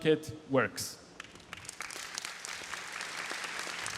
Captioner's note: applause